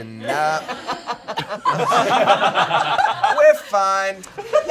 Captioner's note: all laughing